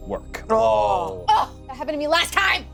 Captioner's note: group groaning